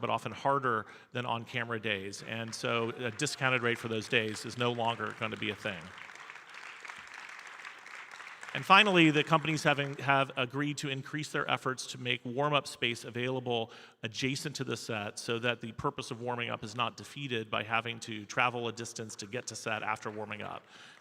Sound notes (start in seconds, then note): 6.0 audience applauding